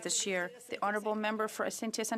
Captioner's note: speaking French